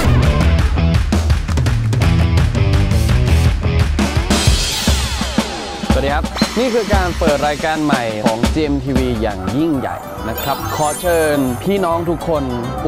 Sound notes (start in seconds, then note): 9.1 woof woof woof woof; 12.2 woof woof woof woof